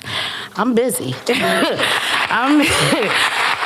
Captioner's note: applause